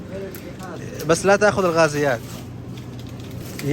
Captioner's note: Arabic